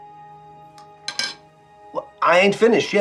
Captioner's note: fork clattering